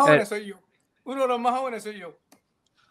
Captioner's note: laughs